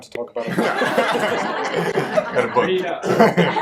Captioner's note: laughter